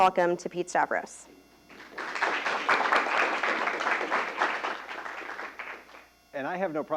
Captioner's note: applause